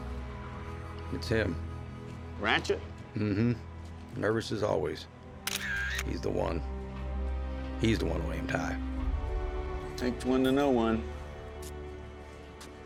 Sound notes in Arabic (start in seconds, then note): 5.4 مصراع الكاميرا